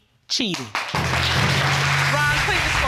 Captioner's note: applause